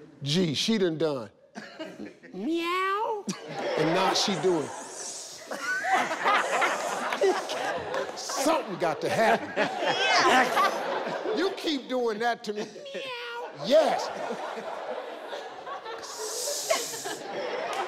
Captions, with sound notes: - G she done done, "meow!" And now she doing (hissing). Something got to happen! You keep doing that to me, meow! Yes! (hissing)